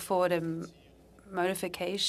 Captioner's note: speaking French